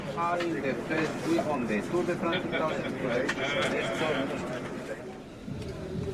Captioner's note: indistinct chattering